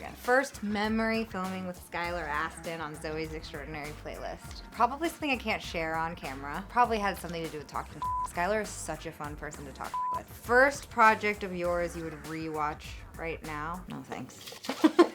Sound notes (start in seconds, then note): 8.0 beep